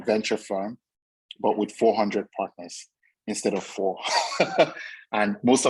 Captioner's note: chuckles